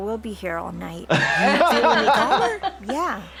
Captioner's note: laughing